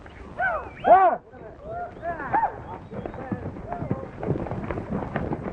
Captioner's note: whistling and corralling